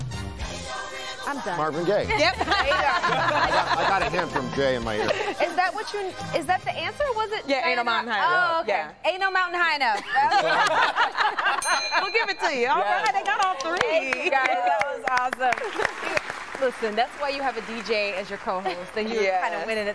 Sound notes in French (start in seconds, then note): 15.6 laughter